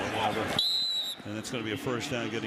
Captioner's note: whistle